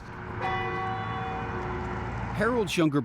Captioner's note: bell tolls